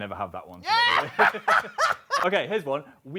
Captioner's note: both laugh